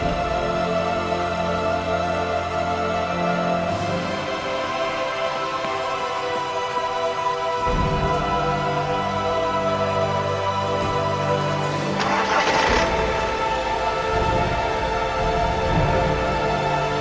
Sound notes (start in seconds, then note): 1.1 tense music continues; 11.1 tense music continues; 11.2 engine cranking